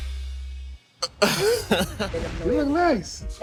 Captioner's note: laughs